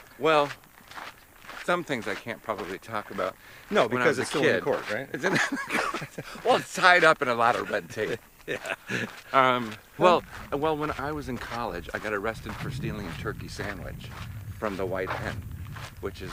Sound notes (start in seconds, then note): 5.1 both laugh